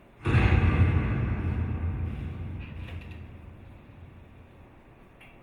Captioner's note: loud crash echoes